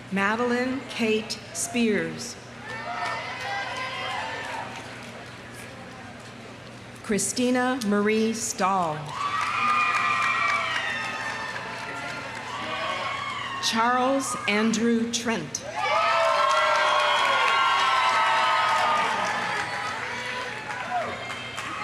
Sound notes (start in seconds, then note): 2.6 audience cheering; 2.6 audience applauding; 9.0 audience applauding; 10.1 audience cheering; 15.8 audience applauding